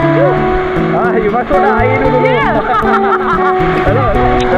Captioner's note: laugh